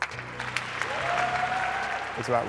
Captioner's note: audience applause